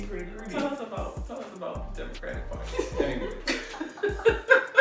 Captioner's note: laughs